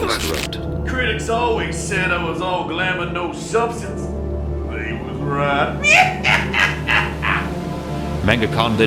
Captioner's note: cackle